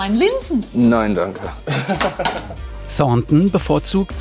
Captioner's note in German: Lachen